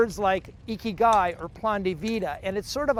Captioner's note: speaks in foreign language